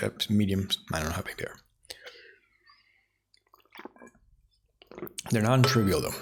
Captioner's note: silence